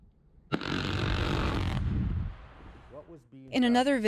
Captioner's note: explosion booming